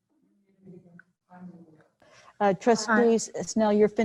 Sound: voice muffled

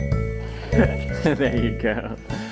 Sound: enchanted music; laughs

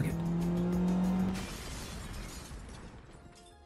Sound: engine rumbling; bomb explodes

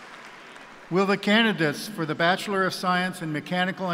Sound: cheers and applause

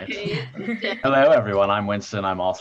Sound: participants laugh

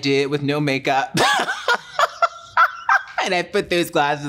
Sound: laughs

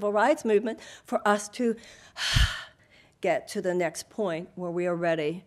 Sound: sighs

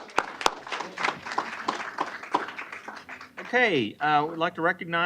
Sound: applause

